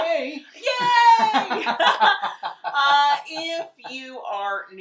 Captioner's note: laughing